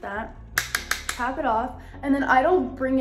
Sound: brush clanging

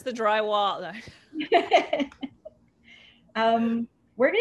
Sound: laughter

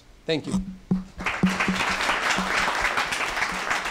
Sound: applause

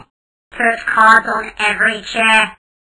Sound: electronic Voice over

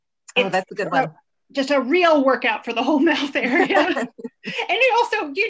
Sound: laughs

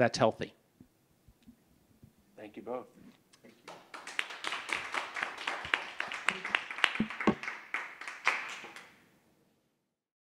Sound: applause

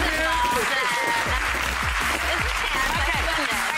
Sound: audience applauds

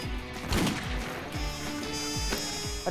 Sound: gun shot

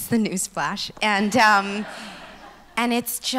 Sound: laughs

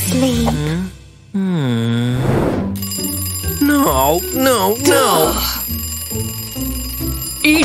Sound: happy sigh

